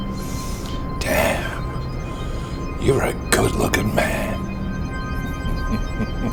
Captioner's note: chuckles